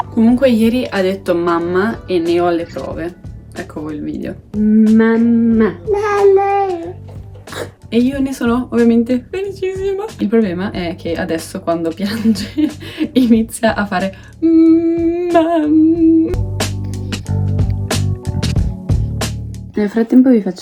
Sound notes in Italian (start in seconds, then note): 15.2 risate